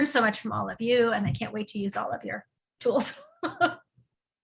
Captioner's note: laughing